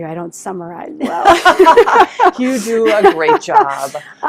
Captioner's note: laughing